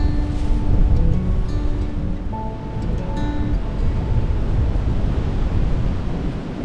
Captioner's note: wind gusting